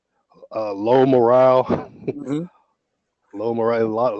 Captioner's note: laugh